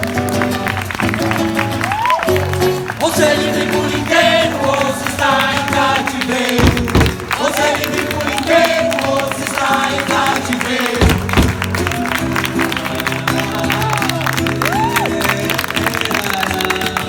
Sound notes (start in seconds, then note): 10.8 applause